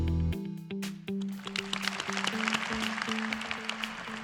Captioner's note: applause